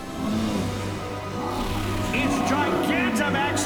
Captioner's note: Charizard roars